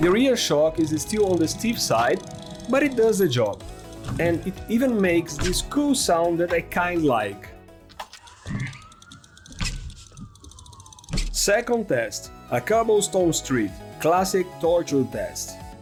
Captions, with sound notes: The rear shock is still on the steep side, but it does the job. And it even makes this cool sound that I kinda like. [Suspension Noise] Second test, a cobblestone street. Classic torture test.